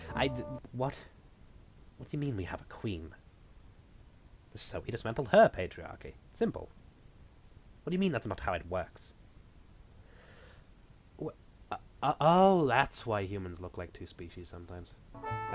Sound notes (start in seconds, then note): 0.6 off-mic; 9.6 long pause; 11.3 stuttering